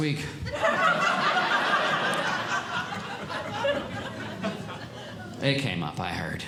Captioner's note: audience Laughing